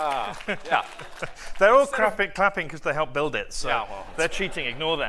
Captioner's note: applause